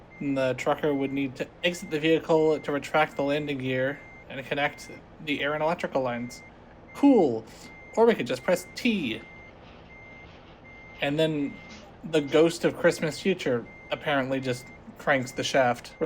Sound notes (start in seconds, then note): none